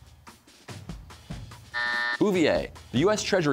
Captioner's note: buzzer sounds